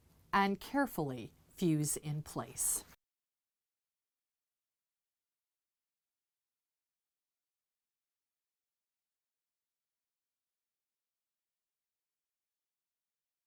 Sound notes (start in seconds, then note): 2.9 no Sound Present